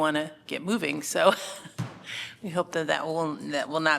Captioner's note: laughter